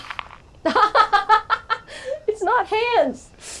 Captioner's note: laughs